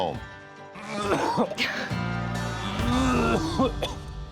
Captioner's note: coughing